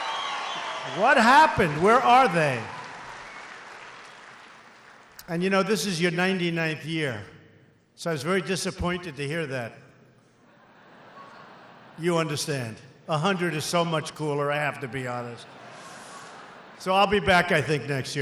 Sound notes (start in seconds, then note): 0.0 applause; 10.4 laughter; 14.7 laughter